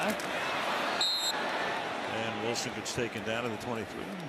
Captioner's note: whistle blowing